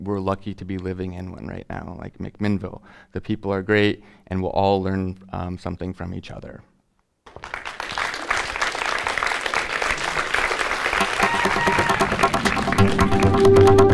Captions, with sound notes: We're lucky to be living in one right now like McMinnville. The people are great and we'll all learn something from each other. [Applause] [Applause + Music]